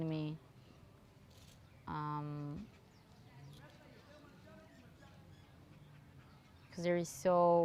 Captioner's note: pauses 6 seconds